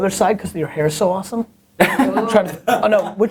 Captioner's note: laughter